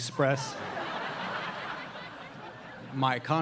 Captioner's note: audience laughing